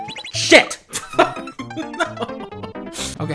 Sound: chuckles

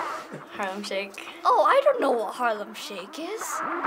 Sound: sighs; sarcastically; music builds

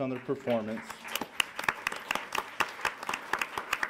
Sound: applause

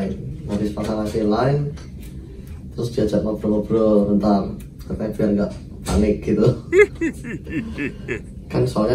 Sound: chuckle

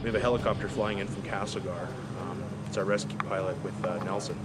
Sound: dramatic music; voiceover

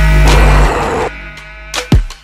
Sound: growls

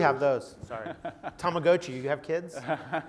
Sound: laugh

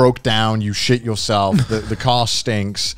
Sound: laughing

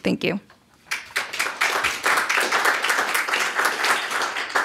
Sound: applause

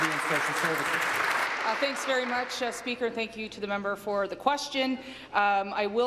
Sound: applause

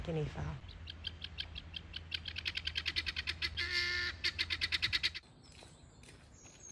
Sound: birds squawking

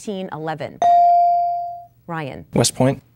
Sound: dinging

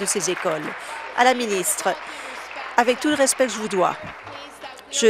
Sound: applause

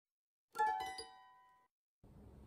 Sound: chime

